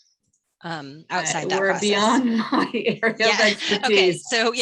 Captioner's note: laughing